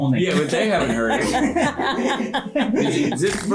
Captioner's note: laughter